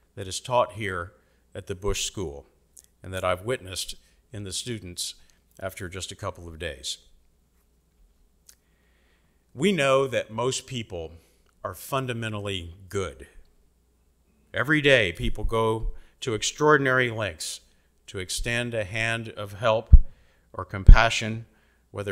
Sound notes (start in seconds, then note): none